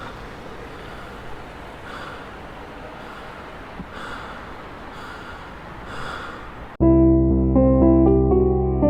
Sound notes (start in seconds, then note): 0.0 city noises; 0.0 heavy breathing